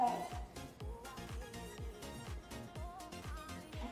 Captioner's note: groan